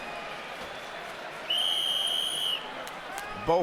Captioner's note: whistle blows